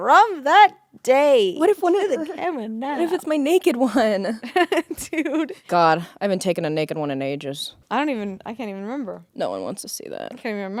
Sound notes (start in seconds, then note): 2.7 both chattering; 4.4 laughing